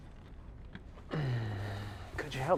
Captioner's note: uncomfortable sigh